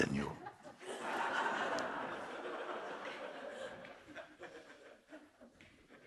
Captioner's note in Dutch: Gelach